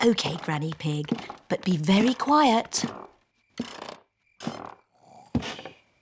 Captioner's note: stairs creak softly; both snore